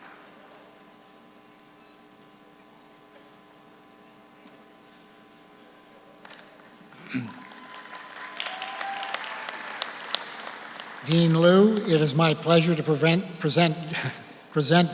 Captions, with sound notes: (audience cheers) (audience applauds) Dean Lu, it is my pleasure to prevent, present,